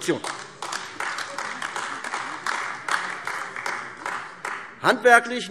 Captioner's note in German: Beifall AfD